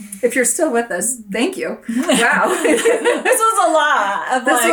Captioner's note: laughs